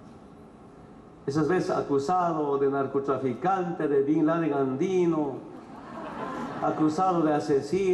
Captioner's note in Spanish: risas